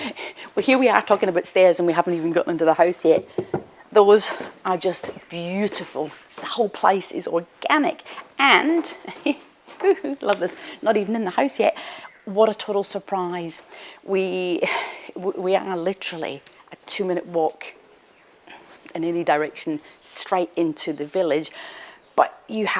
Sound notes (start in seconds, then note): 8.5 chuckles